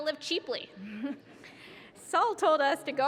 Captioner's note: laughs